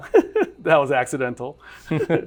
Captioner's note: laughter